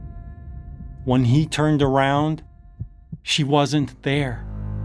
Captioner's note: heart beating; tense music